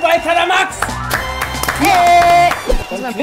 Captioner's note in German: Jubel